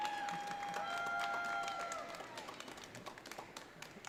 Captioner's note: audience cheering